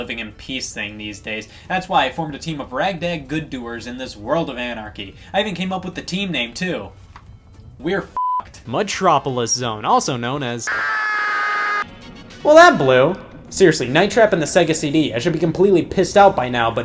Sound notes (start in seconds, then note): 8.2 beep; 10.7 screams